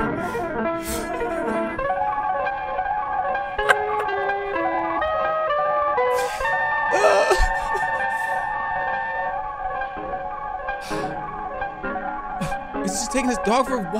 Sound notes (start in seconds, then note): 0.0 sped-up piano music; 3.6 laughs